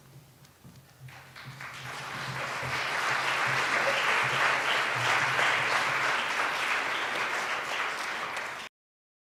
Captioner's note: applause